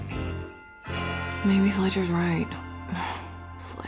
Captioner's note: sighs